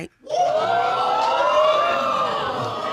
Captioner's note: audience gasps